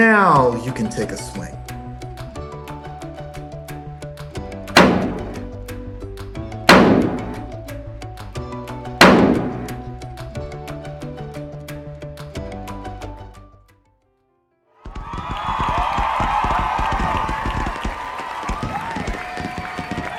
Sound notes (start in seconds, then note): 4.7 bang; 6.7 bang; 14.8 fireworks, applause, cheers